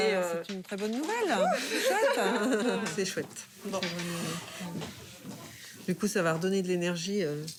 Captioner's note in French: rires